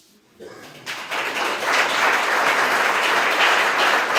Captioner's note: applause